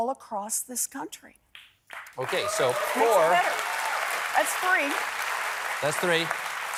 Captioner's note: applause